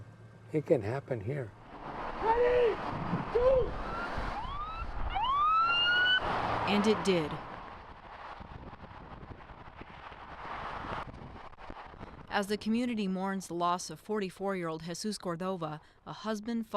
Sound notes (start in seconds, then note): 6.0 siren